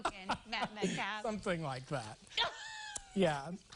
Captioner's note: laughter